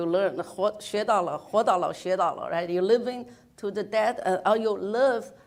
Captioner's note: speaks in foreign language